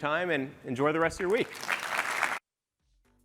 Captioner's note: applause